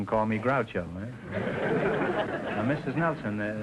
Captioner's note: audience laughing